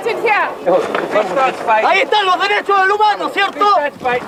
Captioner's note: Spanish speaking?